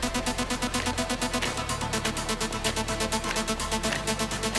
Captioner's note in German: Geräusch von Marschstiefeln